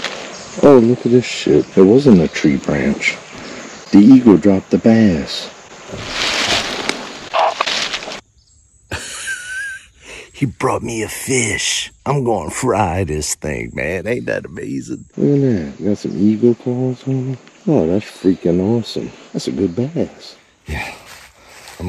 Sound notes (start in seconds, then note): 8.9 laughing